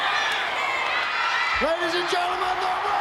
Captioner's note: audience cheering